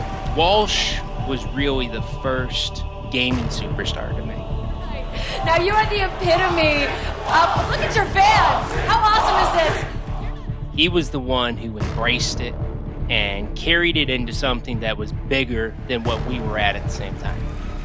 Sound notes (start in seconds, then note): 0.0 cheering; 6.9 Crowd chanting "Walshy"